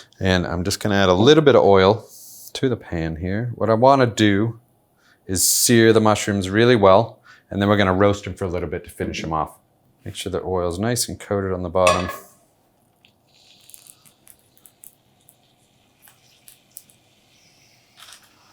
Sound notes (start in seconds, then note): 13.0 sizzling